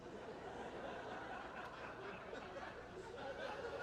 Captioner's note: audience laughing